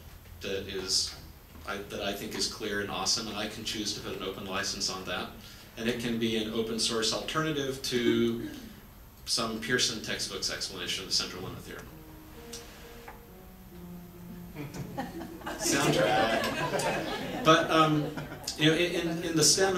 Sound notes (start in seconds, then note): 14.5 audience laughs